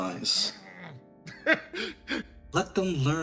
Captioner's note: laugh